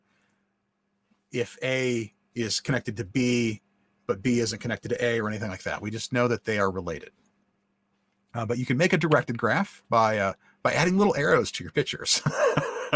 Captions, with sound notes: if A is connected to B but B isn't connected to A or anything like that. We just know that they are related. But you can make a directed graph by adding little arrows to your pictures (laughs).